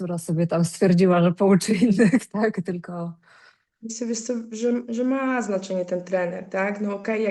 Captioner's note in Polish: śmiech